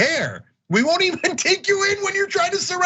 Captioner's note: laugh